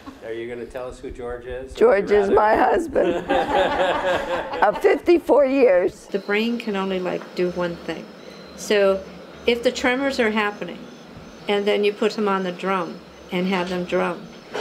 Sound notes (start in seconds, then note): 2.2 man laughs